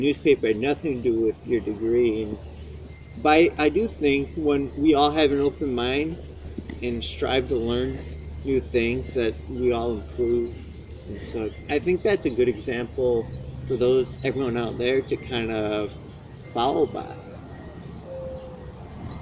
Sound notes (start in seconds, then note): 10.0 wind chimes chiming